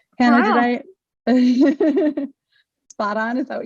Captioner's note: interviewer laughs